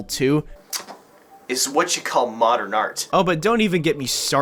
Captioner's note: smooch